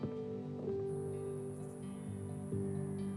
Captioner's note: insects buzzing